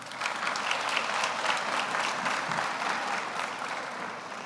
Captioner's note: audience applauds